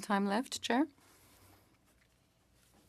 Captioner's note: speaking French